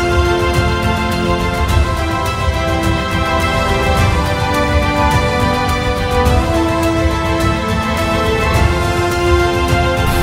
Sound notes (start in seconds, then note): none